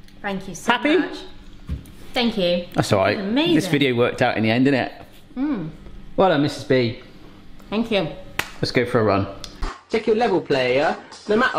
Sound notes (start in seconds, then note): 8.1 hands tapping